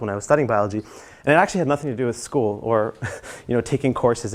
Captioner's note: laugh